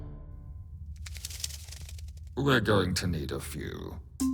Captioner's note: flutters